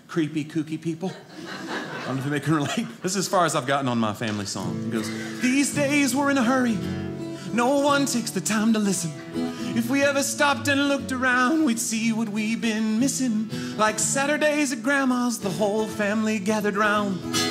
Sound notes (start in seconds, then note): 1.1 audience laughing